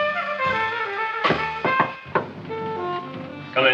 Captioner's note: Frank knocks rhythmically